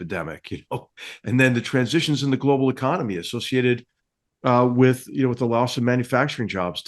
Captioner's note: laugh